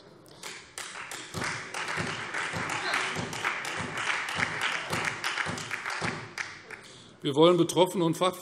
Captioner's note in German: Beifall Freie Demokraten, SPD und DIE LINKE